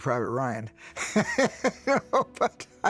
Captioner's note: chuckles